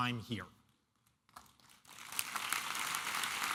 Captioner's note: applause